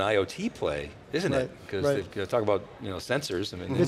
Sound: male Voice

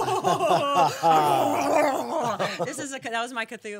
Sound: laughing; gurgling

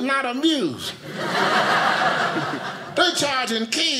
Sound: audience laughing

